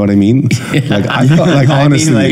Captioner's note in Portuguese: todos rindo